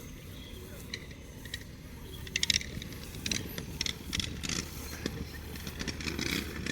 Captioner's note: fade sound of funeral ceremony echoing from a nearby village